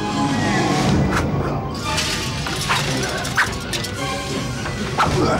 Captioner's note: knife whooshing; loud ominous music; objects clattering; knife whooshing